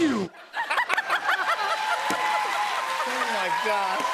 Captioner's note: laughter, cheers, applause